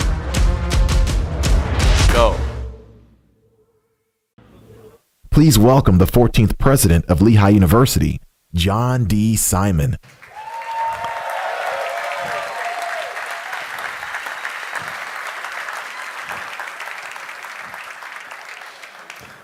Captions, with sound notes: Please welcome the 14th president of Lehigh University, John D. Simon. [APPLAUSE]